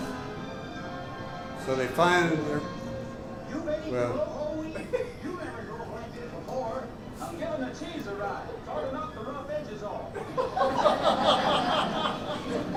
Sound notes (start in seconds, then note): 0.2 singing; 2.0 laughter